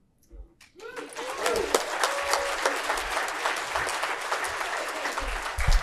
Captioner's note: audience cheering and clapping